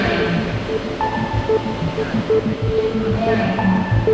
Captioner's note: beeping